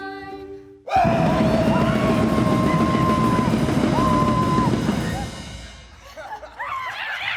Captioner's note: actor yells; actors babble